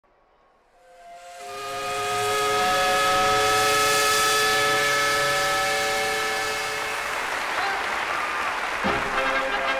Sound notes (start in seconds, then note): 0.7 steam whistle; 6.6 applause; 9.5 marching band music